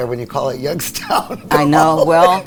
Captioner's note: laughs